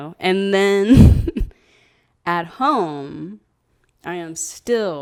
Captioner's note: laughs